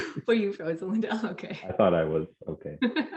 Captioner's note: chuckling; chuckling